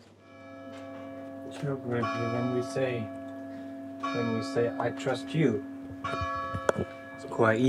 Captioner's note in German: Kirchenglocken läuten